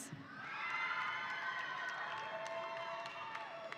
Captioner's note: audience cheering